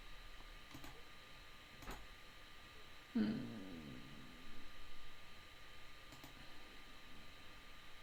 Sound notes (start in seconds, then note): 0.7 mouse clicking